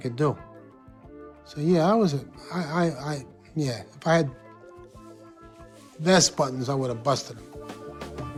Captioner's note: stutters